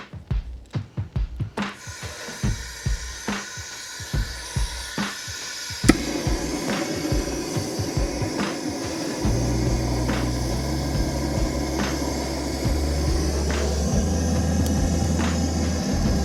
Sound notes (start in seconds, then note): 6.2 loud whooshing of a blowtorch